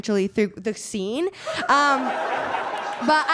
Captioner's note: audience laughs